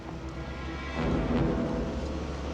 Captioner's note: none